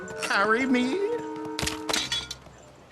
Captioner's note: clatter